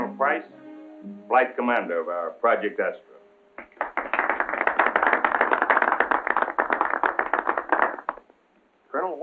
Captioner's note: applause